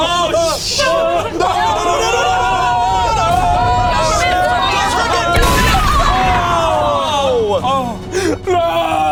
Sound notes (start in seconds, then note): 0.0 group exclaiming; 1.4 gun firing